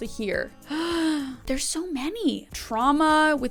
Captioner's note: gentle music continues; inhales